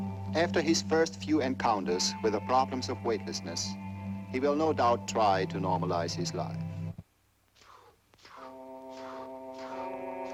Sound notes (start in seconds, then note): 7.6 inhales deeply